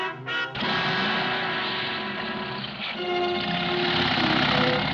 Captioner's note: engine rumbling